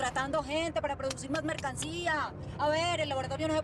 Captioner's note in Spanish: palmadas